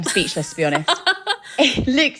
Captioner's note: laughing